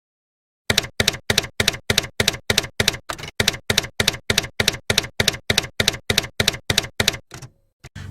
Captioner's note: typewriter keys clacking